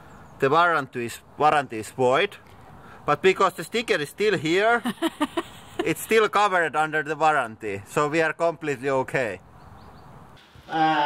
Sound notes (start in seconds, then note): 4.7 laughter